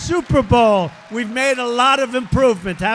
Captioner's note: applause